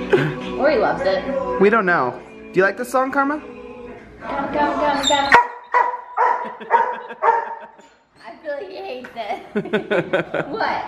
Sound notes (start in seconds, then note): 5.3 Karma barking; 9.3 laughter